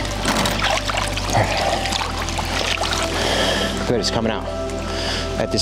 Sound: water dribbling

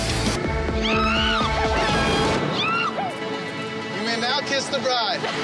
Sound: intense music; screaming

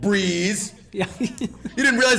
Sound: laugh

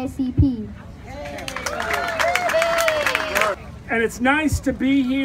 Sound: applause

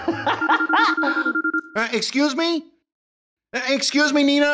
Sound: laughing; phone rings

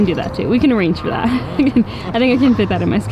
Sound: laughs

